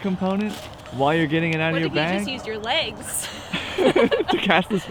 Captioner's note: laughs